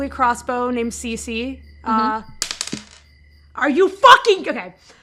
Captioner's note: dice clacks